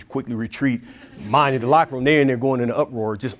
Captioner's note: audience laughing